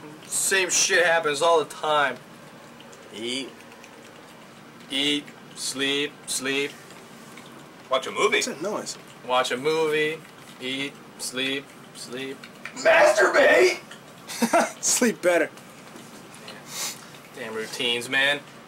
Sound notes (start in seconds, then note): 14.2 chuckles